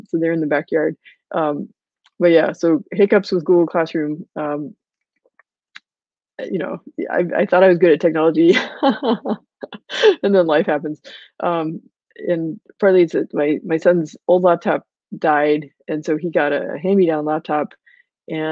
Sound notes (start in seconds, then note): 8.4 laughing